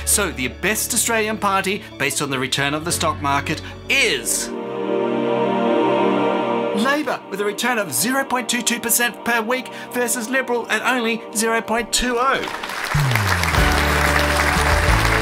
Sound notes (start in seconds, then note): 4.8 gasps; 12.3 applause